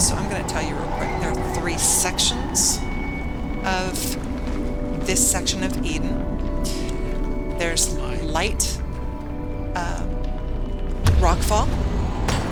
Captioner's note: <grunt> I got hit